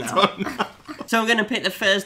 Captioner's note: laughing